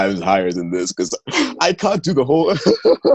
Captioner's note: laughter